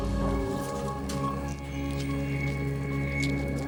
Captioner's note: loud crunching